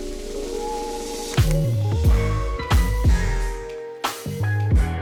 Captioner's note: upbeat music; camera clicking